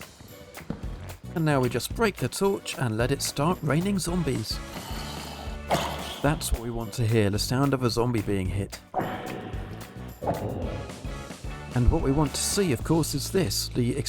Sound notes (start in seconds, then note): 8.9 more zombie damage noises